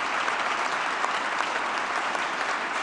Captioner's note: applause